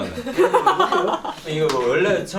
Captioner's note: laughing